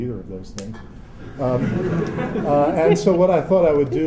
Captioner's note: laughter